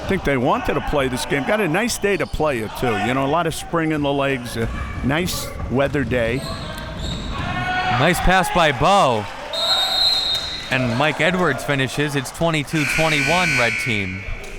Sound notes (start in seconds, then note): 9.5 whistle blowing